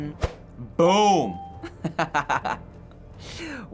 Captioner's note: laughs